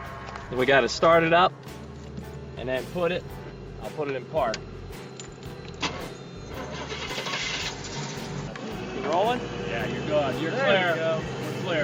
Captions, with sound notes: We gotta start it up and then put it, I'll put it in park. (engine revs) Is it rollin'? - Yeah, you're goin', you're clear, we're clear.